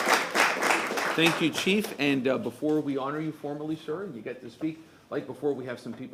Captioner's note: applause